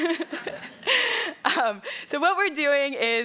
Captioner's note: laughing